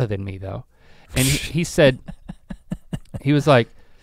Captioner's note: Rhett laughing